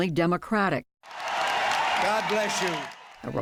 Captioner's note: cheering and applause